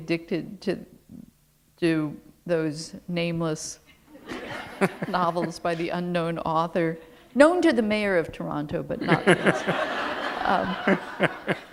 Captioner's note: laughter